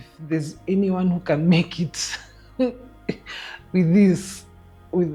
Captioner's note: laughing